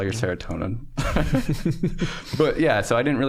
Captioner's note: all chuckling